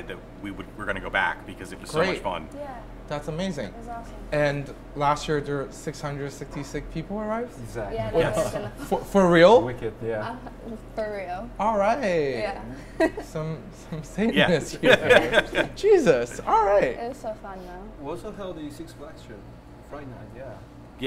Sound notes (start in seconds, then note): 7.9 speaking together, laughing; 12.8 laughing; 14.5 laughing together